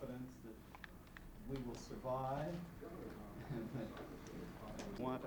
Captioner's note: chuckles